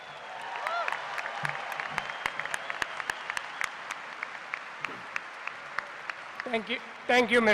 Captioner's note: cheers and applause